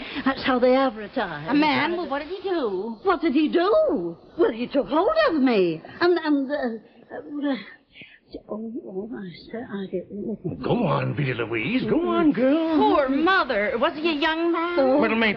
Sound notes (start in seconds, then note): 7.4 Veta mumbling